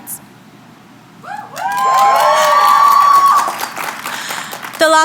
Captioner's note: applause